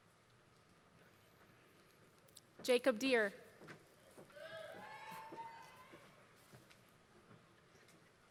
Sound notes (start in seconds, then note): 4.9 applause